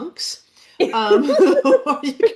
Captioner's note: laughs